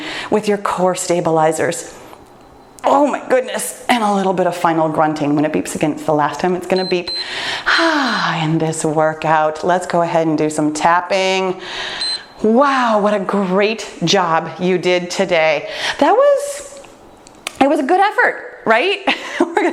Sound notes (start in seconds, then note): 6.7 timer beeps; 11.8 timer beeps